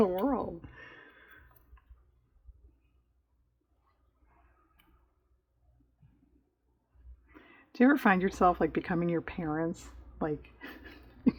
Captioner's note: laughs